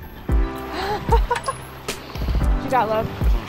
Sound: laughs

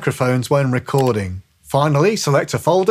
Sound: computer mouse clicks

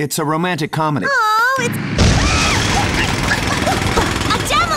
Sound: explosion, drilling

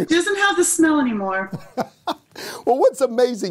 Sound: laughing

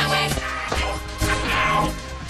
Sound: emmet grunting

